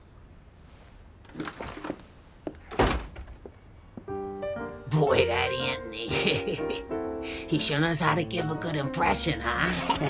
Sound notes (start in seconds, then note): 1.2 door squeaks